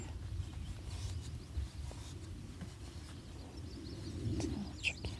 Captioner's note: birds chirping